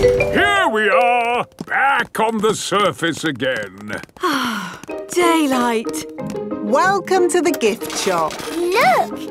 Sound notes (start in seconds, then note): 4.1 sighs